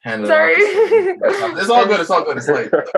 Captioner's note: chuckles